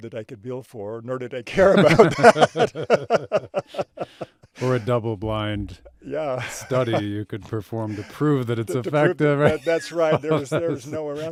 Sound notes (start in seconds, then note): 1.6 both laughing; 7.8 laughs